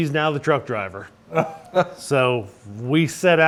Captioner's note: laughs